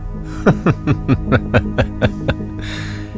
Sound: laughs

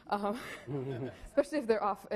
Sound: laughing

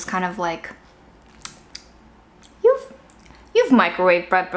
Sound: food squishing

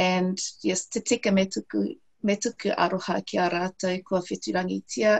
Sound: speaks in foreign language

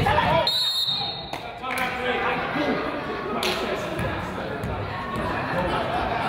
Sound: whistle blows; crowd jeers

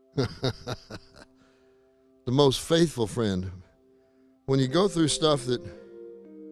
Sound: chuckling

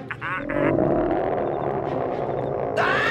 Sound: growling; screaming

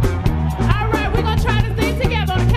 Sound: audience cheering

